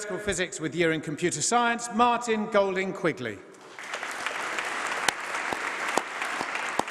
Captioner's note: applause